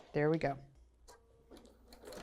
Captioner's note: sewing Machine